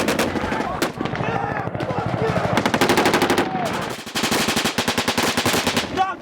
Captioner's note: gunfire; yelling